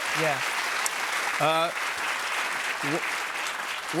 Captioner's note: cheers and applause